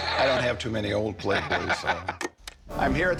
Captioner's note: laughs